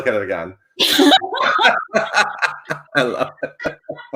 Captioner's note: laughing